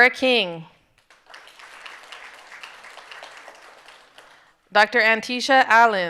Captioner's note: audience applauding